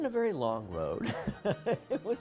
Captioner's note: laughs